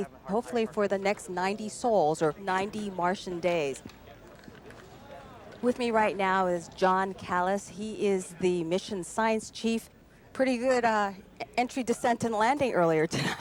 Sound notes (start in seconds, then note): 3.9 murmurs